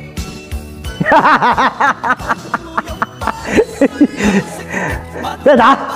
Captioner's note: laughter